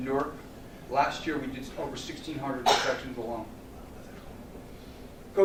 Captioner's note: cough